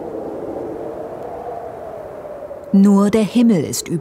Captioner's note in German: Windbrausen